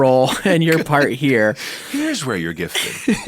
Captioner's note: chuckle